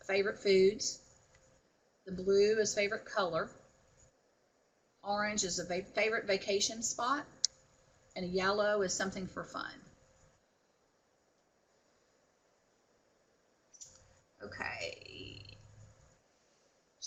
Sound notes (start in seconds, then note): 9.8 no sound